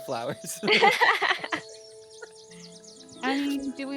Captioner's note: Calla laughs